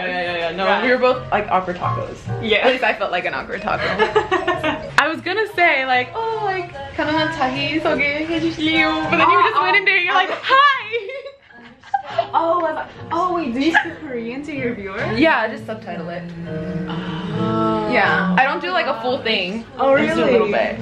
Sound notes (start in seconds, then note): 4.3 laughing; 7.1 speaks Korean